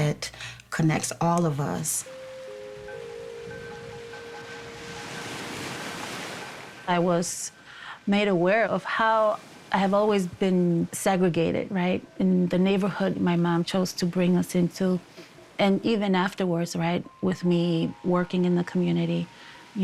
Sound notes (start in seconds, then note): 2.1 gentle music; 4.9 waves crashing